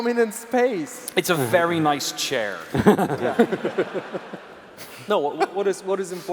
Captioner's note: laughs